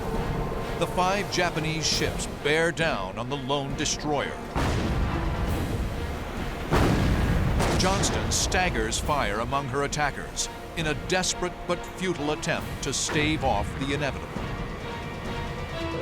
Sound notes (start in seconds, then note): 4.5 explosions